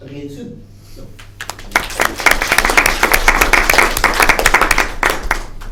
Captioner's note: applause